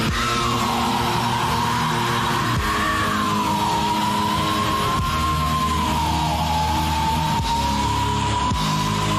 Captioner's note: screaming